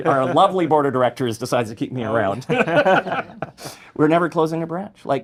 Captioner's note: laughs